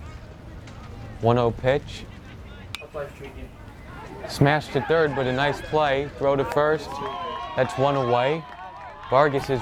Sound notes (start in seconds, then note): 2.7 bat pings; 8.0 crowd cheers